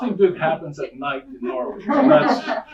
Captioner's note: audience laughing